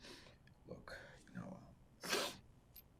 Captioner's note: wiping nose